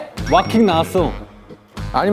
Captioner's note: confident